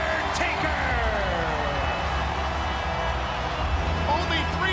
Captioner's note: crowd cheering